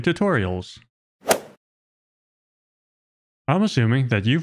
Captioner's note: golf ball hit sound effect